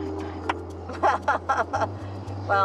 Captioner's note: laughs